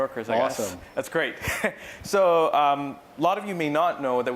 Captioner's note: laugh